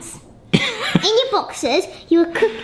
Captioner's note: laughs